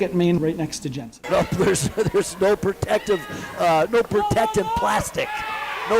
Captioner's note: laughing